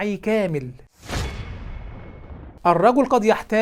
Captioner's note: sound effects